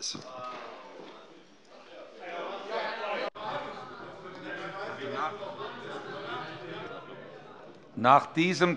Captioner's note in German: Zurufe von der CDU - Gegenrufe von der SPD